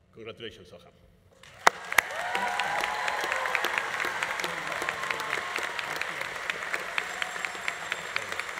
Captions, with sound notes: Congratulations, Soham. (audience applauding) (audience cheering)